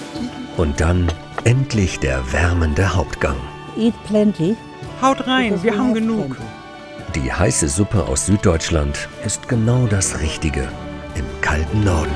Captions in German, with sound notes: Und dann - endlich der wärmende Hauptgang. (englisch:) Haut rein, wir haben genug. Die heiße Suppe aus Süddeutschland ist genau das Richtige im kalten Norden.